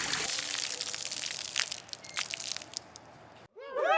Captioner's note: water splashing; crowd cheering